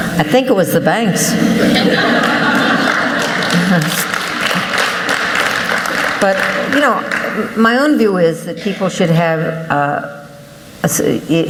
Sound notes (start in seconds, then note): 1.4 laughter; 2.2 applause